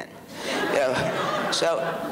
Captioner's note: audience laughs